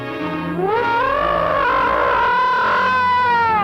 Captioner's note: gargon growling